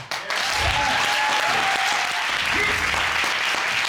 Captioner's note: audience cheering